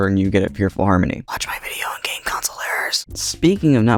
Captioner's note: whispers